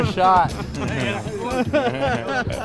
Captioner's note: laughing